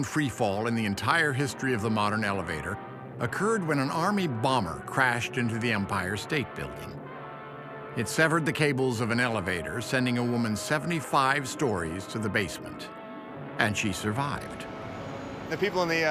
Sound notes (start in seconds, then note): none